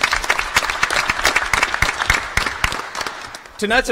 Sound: applause

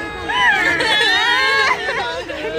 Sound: screaming

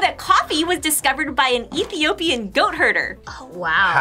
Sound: gags

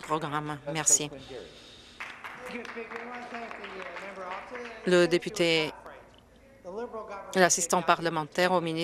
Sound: applause

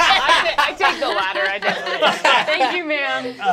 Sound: group laughing

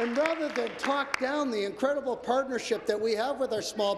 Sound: applause

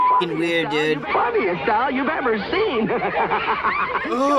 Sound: laughs eerily

